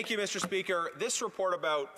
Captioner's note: speaking French